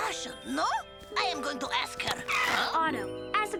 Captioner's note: tires screech